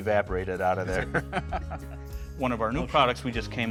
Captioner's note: laughing